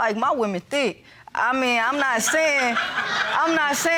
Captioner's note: audience laughing